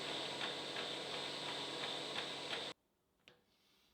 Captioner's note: machine whirring